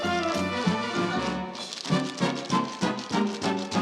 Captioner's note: rhythmic tapping continues